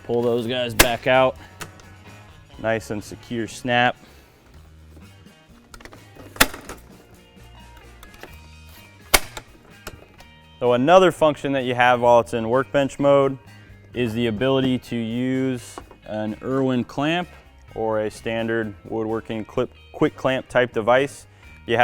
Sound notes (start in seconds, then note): 6.4 leg clicks